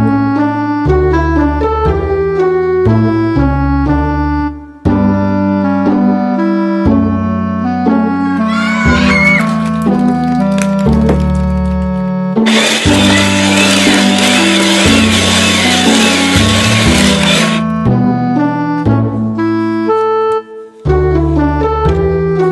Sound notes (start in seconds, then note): 7.2 children clapping; 12.4 ice shaving sound